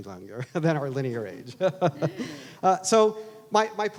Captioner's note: laughs